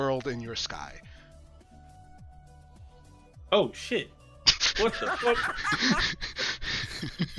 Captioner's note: laughter